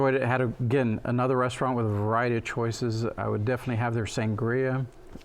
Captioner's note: none